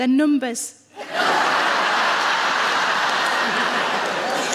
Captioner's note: audience laughing